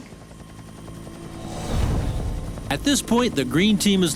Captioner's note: helicopter